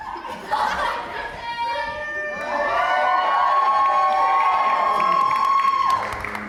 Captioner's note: audience cheers